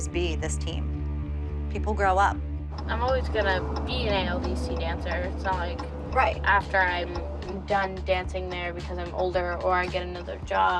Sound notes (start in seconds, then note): none